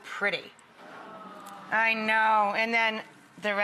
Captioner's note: audience awes